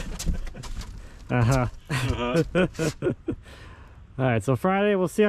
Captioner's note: laughing